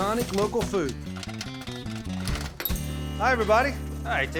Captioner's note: popping